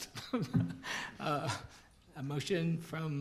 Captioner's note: laughing